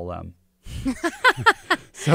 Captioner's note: laughs